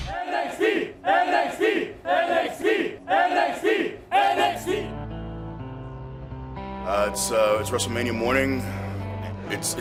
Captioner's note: crowd cheering